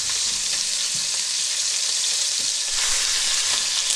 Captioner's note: pan sizzling